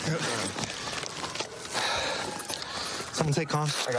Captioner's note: sirens blaring